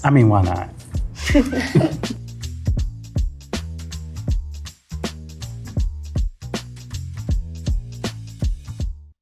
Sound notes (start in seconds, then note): 0.0 gentle music; 1.2 all laughing